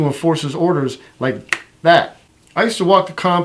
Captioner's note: finger snapping